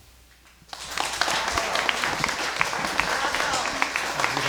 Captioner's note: crowd clapping